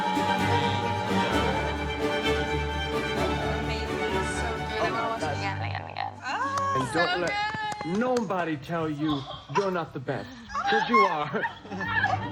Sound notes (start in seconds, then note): 6.0 indistinct chatter